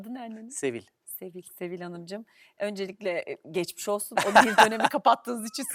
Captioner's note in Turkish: kahkaha